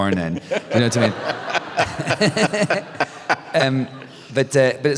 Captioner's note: laughter